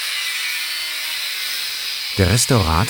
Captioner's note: loud whirring